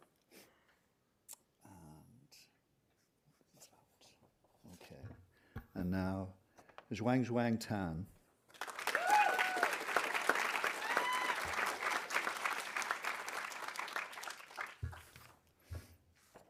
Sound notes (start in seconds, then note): 8.5 audience applauding; 8.6 audience cheering